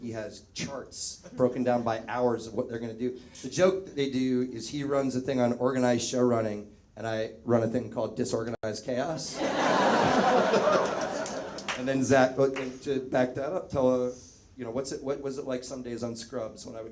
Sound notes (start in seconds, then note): 9.3 audience laughs